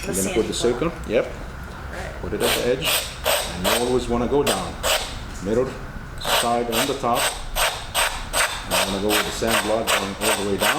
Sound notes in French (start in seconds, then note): 3.0 scratching